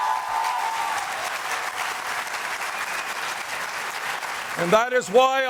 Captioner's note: applause